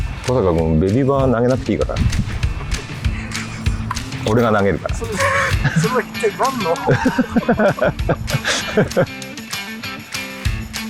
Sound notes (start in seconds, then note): 6.2 laugh